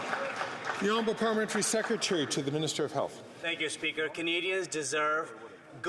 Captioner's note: some Applause